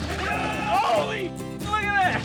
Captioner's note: shouting